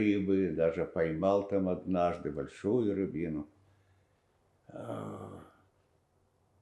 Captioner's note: sighing